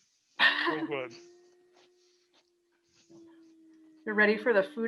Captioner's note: laughing